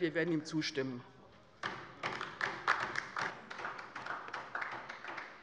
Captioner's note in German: Beifall bei der LINKEN